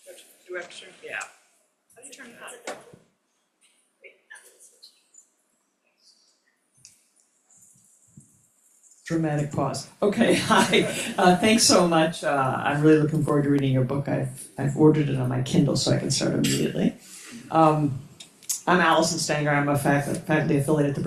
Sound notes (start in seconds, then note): 10.0 laughs